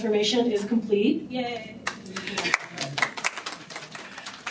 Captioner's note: applause